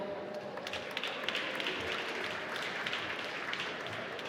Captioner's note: applause